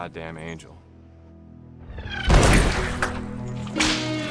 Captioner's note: gunshot